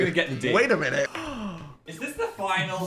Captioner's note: gasps